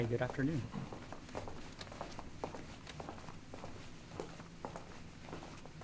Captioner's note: footsteps thumping